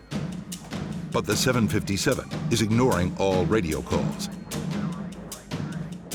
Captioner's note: voiceover; percussive music